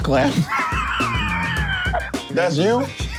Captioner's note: laughs